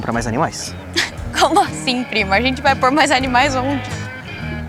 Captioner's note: Dininha laughs